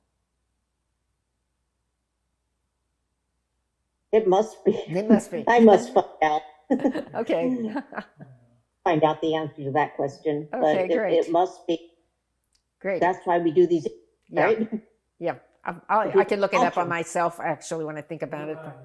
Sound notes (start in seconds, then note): 8.0 laughing